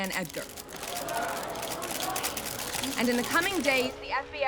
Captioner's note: crowd gasping